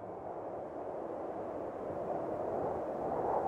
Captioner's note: wind howling